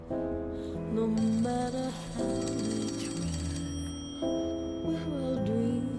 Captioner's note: phone ringing